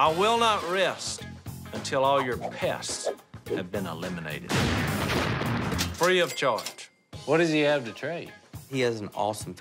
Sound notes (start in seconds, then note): 4.5 explosion